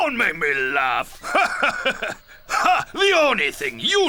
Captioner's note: laughing